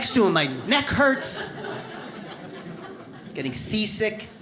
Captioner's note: audience laughs